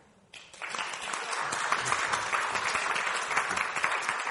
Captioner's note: audience applauding